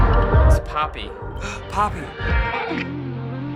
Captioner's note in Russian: вздыхает